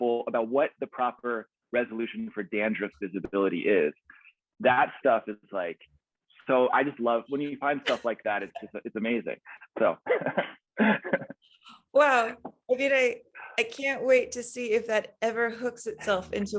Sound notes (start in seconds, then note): 9.4 laughs